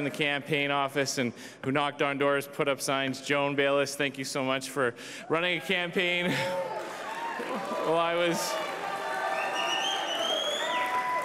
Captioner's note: cheers and applause